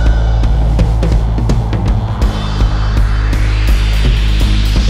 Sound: whooshing

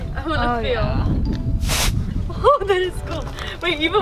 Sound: air blowing

